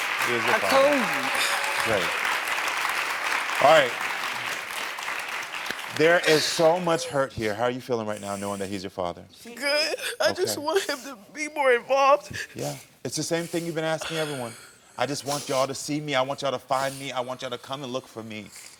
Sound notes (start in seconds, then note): 0.0 audience applauding